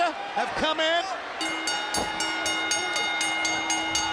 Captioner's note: bell rings